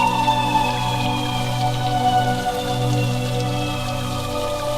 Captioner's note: water spattering